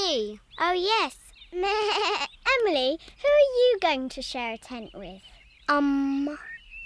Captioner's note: bleats